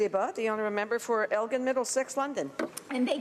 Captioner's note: speaking French